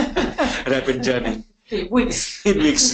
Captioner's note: laughing